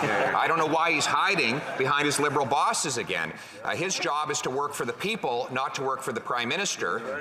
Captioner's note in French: voix de l'interprète